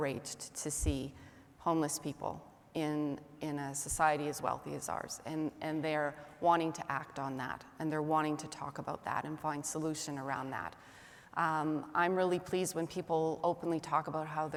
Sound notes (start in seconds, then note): none